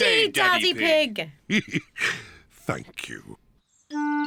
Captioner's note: chuckles